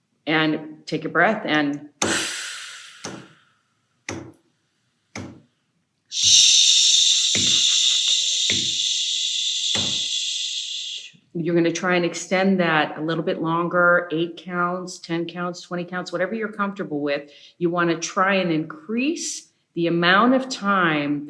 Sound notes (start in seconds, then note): 2.0 inhales; 6.1 exhales